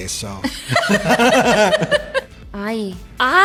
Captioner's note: laughter